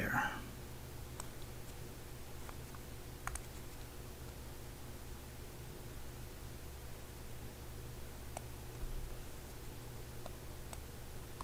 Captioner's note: writing Sounds